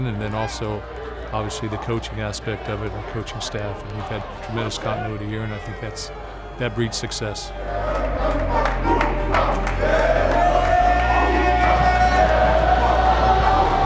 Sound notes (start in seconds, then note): 7.5 team chanting